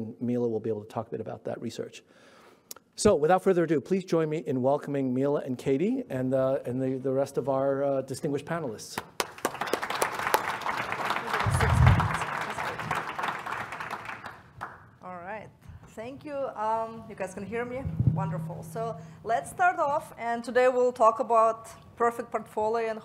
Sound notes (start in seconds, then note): 8.9 applause